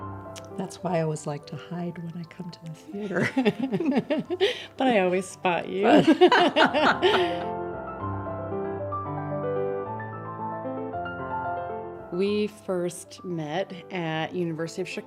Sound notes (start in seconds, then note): 5.9 laughs